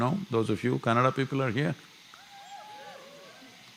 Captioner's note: cheering